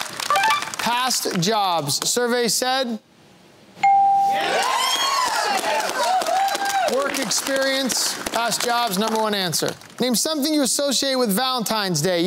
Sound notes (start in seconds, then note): 4.3 cheering